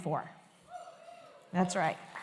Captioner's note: cheering, applause